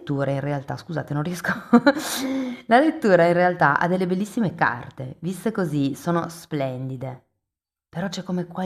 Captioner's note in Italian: risate